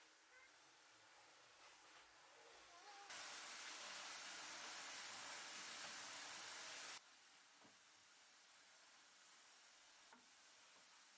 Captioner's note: steam rising~